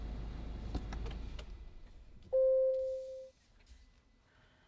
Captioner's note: engine shuts off